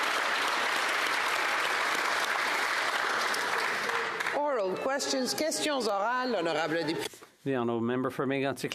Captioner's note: applause